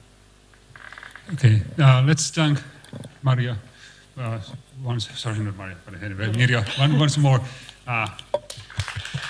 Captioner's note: applause